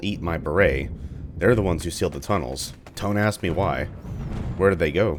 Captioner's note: thunder